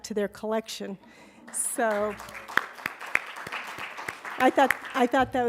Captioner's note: applause